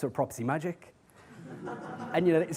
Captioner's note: audience laughs